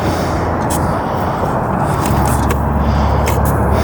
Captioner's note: sand rustling